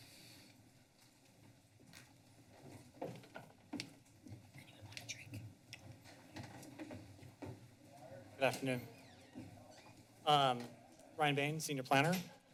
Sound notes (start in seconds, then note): 4.7 whispers; 8.5 door opens